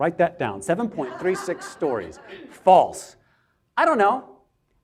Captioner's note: audience laughs